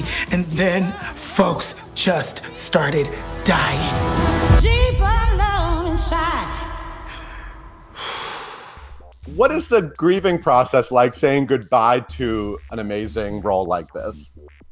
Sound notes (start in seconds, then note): 6.9 exhales